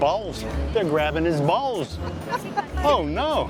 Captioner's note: laughs